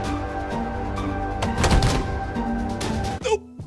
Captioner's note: dramatic music; thump; dramatic music